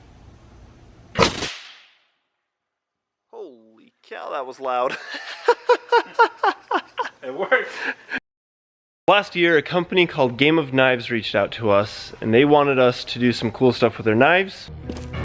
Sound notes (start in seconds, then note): 1.3 banging; 4.8 laughing